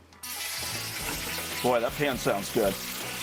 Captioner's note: oil sizzling